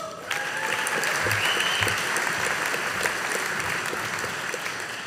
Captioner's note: audience applauding